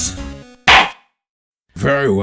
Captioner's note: gavel slams!